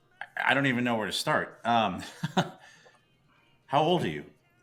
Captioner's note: chuckles